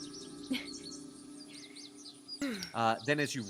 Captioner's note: chuckles